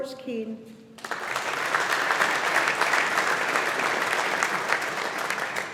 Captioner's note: audience applauding